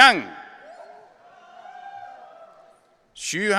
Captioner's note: audience cheering